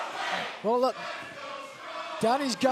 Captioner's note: fans chanting